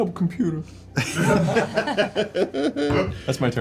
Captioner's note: laughter